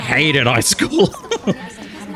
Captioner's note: laughs